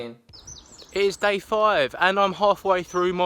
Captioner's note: birds chirping